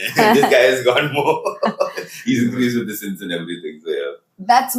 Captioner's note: laughs